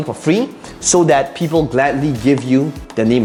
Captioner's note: marker tapping